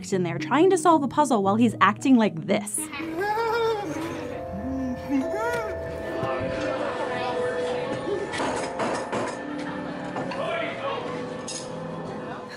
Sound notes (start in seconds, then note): 3.0 laughing; 8.4 hammering manically